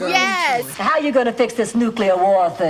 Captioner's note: soundbite of tv show, "the golden girls"